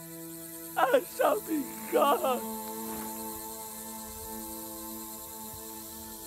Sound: crying

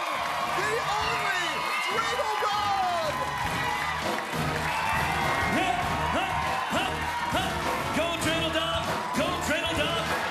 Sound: cheers and applause

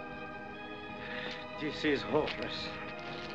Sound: sighs

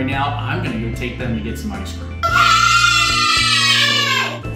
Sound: scream in excitement

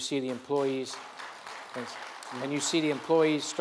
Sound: audience applauds

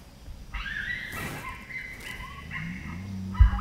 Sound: yipping

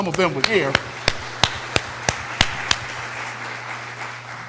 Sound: applause

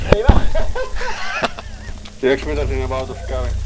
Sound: laughing

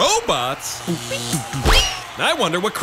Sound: robot noises

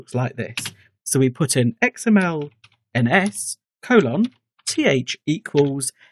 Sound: typing

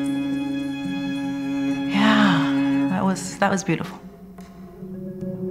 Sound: dreamily

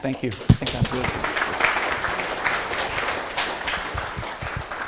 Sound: class applauding

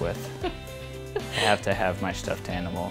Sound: laughing

